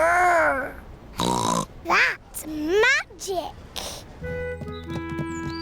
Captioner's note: snorts